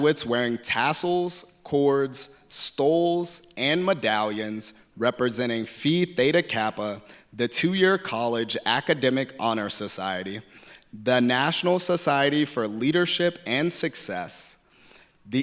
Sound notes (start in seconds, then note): none